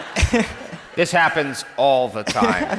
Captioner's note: laughs; crowd laughs